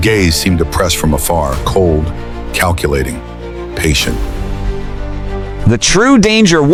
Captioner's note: muttering under his breath